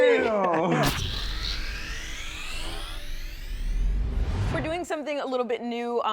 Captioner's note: computerized engine revving